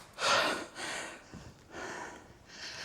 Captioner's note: pants loudly